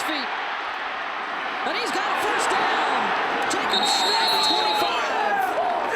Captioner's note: applause